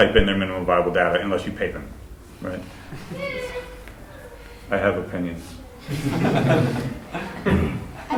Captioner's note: laughter